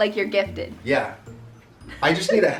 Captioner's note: giggles